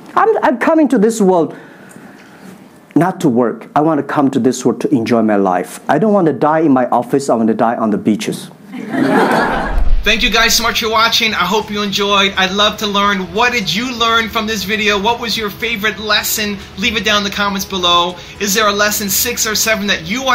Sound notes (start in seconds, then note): 8.8 laughing